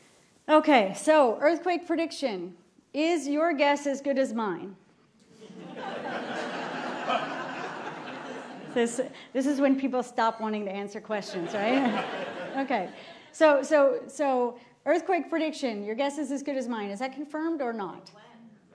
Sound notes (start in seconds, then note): 11.3 laughter